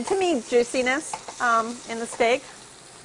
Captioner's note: sizzling